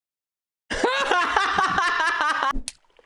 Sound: erupts into a thunderous cackle

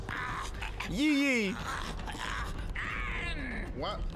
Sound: laughs

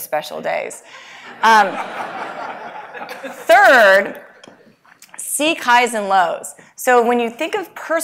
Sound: laugh

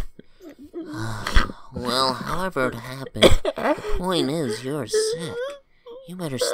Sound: sigh

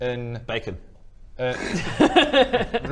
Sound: laughs

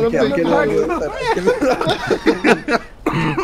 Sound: laughter

